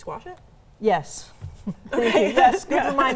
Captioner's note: laughs